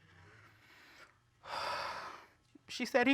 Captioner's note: sighs